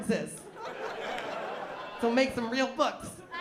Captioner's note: laughter